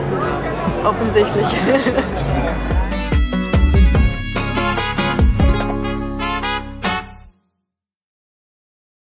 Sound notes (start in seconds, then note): 1.4 laugh